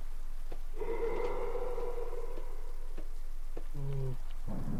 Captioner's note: monsterous goulish breath and/or scream?